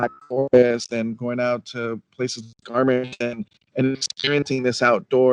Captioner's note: speech distorting